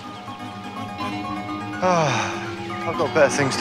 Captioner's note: sighs